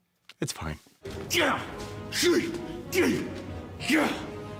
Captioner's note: grunting